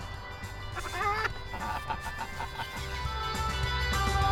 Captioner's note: laughs; upbeat music